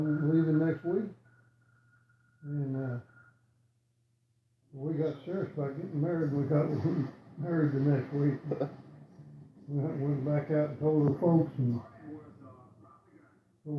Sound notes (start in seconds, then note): 6.1 chuckling